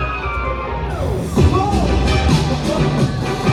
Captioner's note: woosh